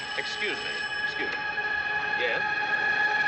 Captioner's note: rings; sirens Blaring